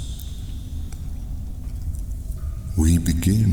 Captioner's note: cave noises